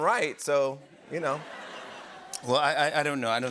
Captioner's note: laughter